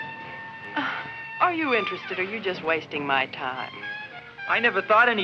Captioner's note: sighs